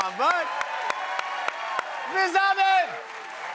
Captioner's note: cheers and applause